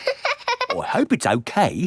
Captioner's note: laughing